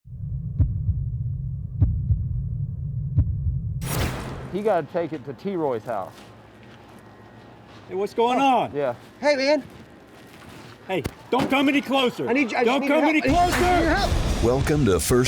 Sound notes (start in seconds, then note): 0.2 heart beating; 3.8 whooshing; 13.8 rock music; 13.8 whooshing